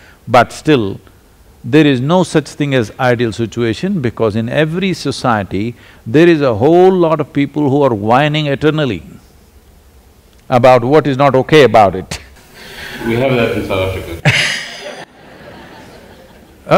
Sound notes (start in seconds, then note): 12.3 laughs; 14.2 laughter